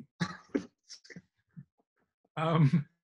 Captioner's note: laughing